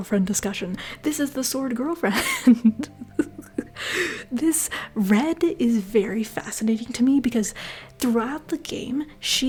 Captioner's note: laughter